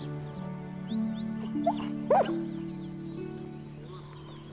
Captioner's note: dog barks